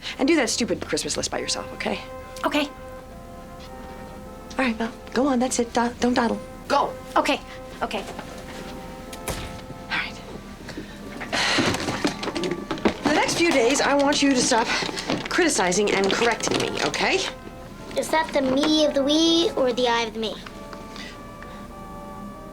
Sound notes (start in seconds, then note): 10.7 sighs